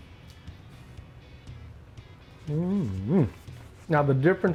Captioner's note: sighs delightedly